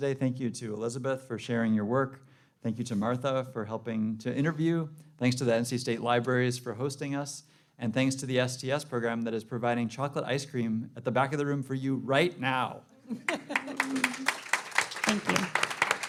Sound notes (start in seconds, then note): 13.2 applause